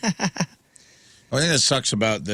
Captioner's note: laughing